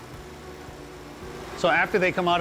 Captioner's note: machine whirring